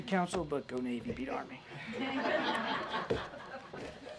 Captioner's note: laughter